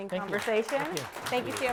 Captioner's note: applause